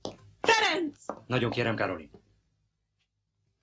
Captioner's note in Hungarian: kiált